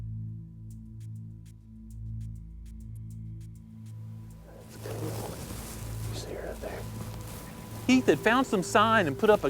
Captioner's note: whispering